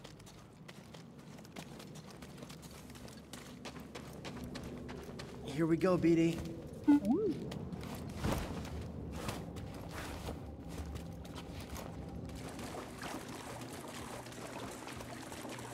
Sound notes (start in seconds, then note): 6.8 boop-woo